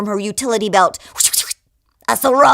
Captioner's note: whooshing noise